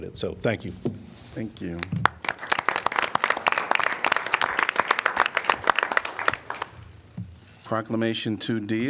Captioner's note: applause